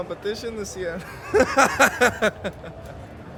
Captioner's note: laughs